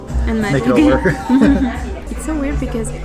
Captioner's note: laughs